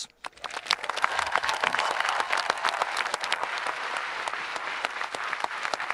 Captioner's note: audience applauding and cheering